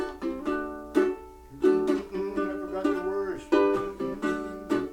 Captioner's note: humming